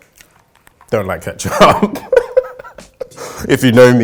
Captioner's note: laughing